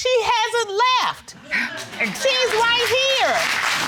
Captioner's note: audience applauds